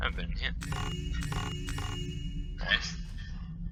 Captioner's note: 3 joyous chimes in a row